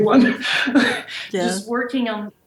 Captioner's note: laughs